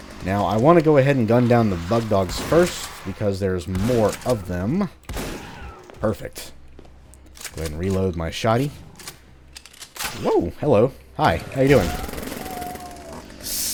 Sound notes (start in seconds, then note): 5.0 shotgunning intensifies; 5.1 boom